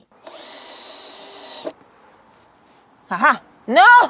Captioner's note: drill whirring